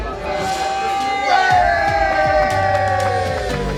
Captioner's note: cheering